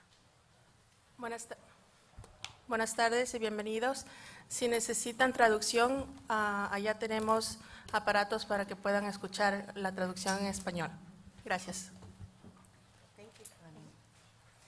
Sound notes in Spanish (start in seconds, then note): 2.4 Se habla en un idioma extranjero